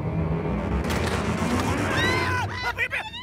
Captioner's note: Door opens; Screaming